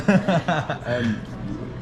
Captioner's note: laughing